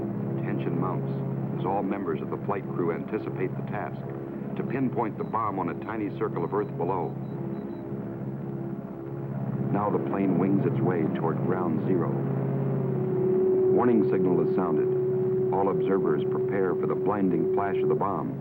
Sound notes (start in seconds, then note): 12.9 prolonged beeping